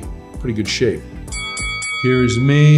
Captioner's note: bell chiming